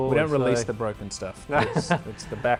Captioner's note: laughs